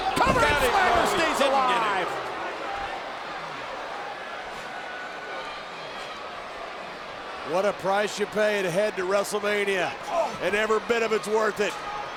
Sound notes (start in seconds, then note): 2.1 crowd vocalizing